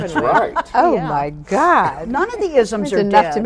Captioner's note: laughing